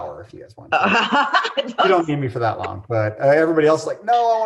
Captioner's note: laughing